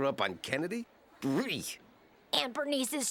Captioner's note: gagging